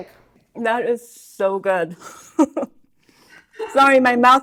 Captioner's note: chuckles